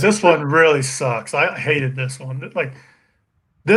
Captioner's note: murmurs